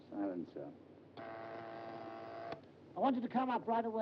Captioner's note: machine buzzes